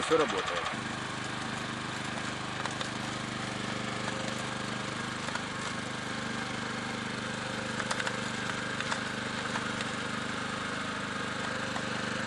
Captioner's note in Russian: слышен шум работы двигателя мотокультиватора